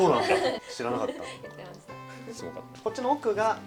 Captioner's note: laughs